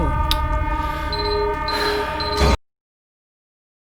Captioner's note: beeping